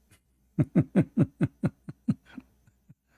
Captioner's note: Ketawa